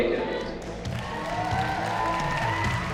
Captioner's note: audience cheering